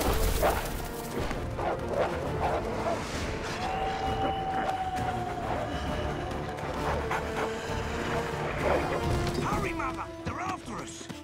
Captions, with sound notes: [barking] [howling] Hurry, Mother! They're after us!